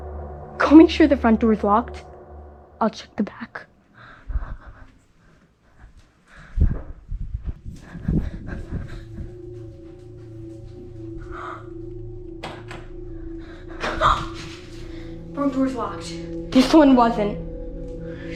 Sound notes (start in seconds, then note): 7.7 scared breathing; 11.7 Emelie gasps